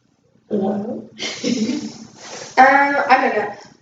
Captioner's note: laughter